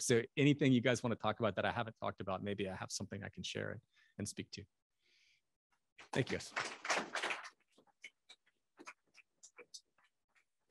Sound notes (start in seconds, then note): 6.1 applause